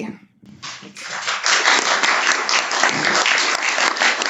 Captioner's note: applause